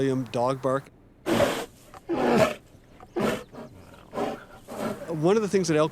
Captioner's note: bear snarling